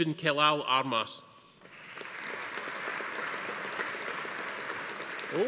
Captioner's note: audience applauding